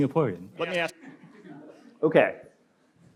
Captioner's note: audience chuckling